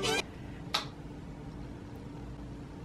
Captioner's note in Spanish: click del interruptor